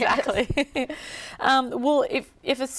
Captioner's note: laughter